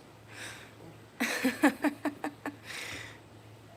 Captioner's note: laughing